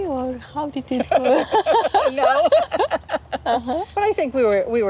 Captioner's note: laughing